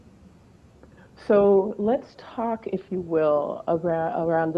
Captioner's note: none